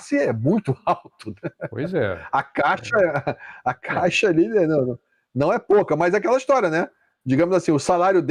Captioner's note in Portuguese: risadas